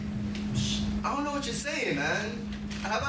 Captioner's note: sighs